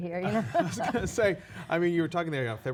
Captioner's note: laughing